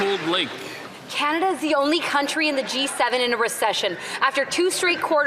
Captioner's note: some Applause